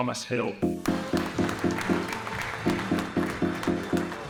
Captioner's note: crowd applauds